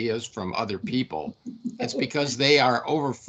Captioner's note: laughing